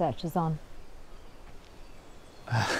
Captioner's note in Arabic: تضحك بعصبية